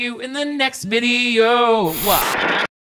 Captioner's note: static crackling